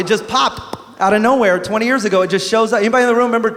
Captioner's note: pop